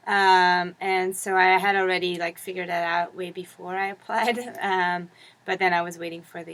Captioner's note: laugh